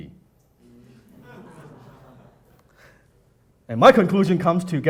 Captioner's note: audience laughing